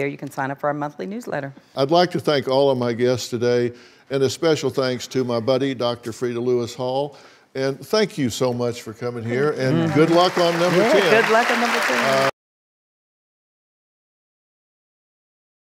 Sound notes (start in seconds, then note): 9.2 audience applauds